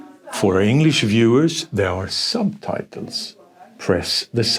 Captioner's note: speaks English